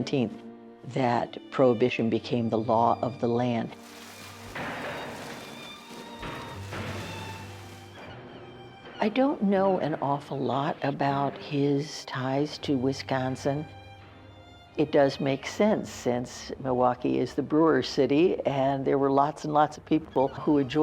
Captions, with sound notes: that prohibition became the law of the land. (alcohol splashing) (melancholy music continues) I don't know an awful lot about his ties to Wisconsin. It does make sense, since Milwaukee is the brewers' city